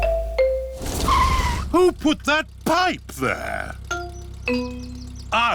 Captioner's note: tires screech